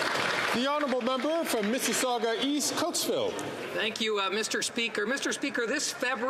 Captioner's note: some Applause